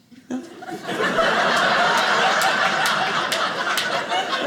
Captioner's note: audience laughing